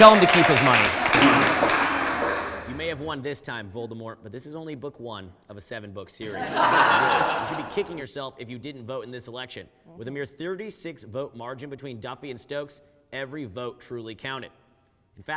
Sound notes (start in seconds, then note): 6.2 audience laughs